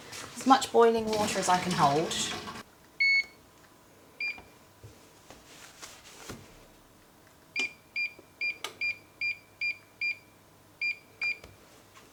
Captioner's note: stove beeping